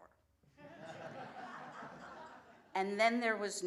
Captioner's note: laughter